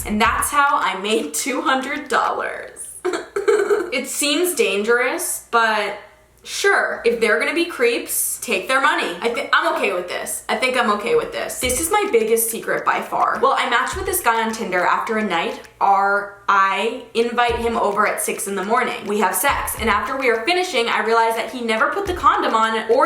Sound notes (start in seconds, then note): 3.0 laughs